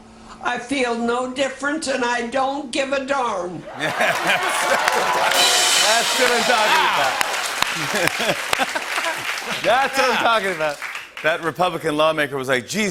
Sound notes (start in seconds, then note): 3.6 cheers and applause; 6.0 laughs